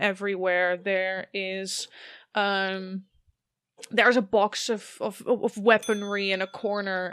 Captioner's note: bell dings again